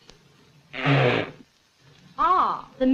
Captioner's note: blows nose